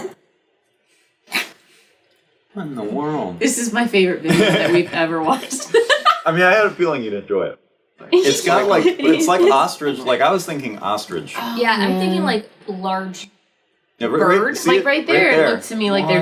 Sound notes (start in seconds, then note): 0.1 laughs; 6.0 laughs